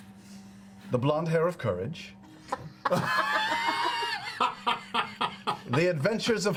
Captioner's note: all laugh